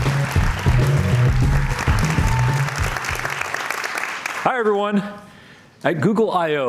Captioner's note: cheers and Applause